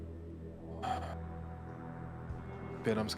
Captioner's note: sighs